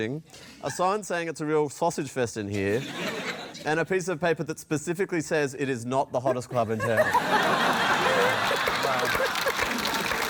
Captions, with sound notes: a sign saying, "It's a real sausage fest in here," and a piece of paper that specifically says it is not the hottest club in town. (LAUGHTER, APPLAUSE) Wow.